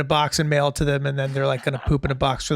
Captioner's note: chuckling